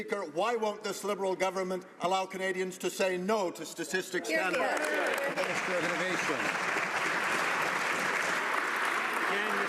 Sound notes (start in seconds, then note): 8.0 some Applause